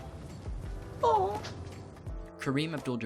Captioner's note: cliff's soft mocking wail